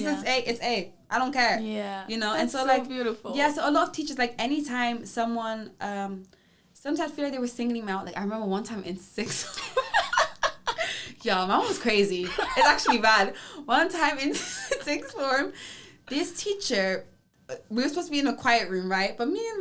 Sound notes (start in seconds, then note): 12.3 laughs